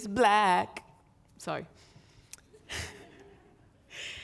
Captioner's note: chuckles